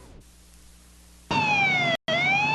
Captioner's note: siren blaring